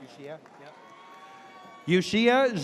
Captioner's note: audience cheers